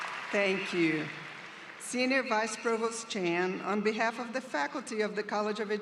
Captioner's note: applause